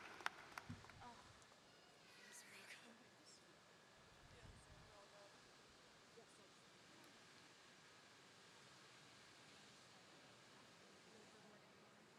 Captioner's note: applause